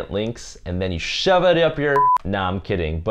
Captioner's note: beep